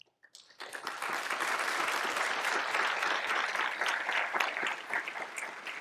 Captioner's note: applause